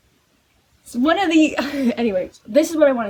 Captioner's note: laughing